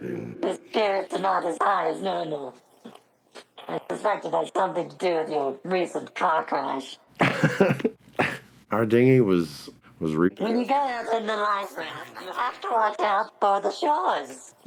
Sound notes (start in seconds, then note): 7.2 laughs